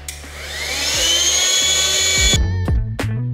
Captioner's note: air pump whirring; mellow pop music